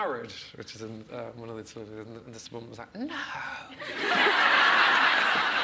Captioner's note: audience laughs